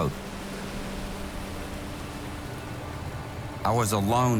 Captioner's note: boat engine hums